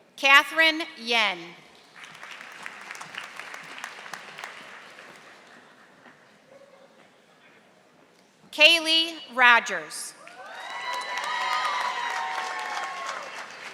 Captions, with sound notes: Katherine Yen. (audience applauding) Kaylee Rogers. (audience applauding)